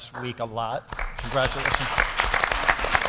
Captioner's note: applause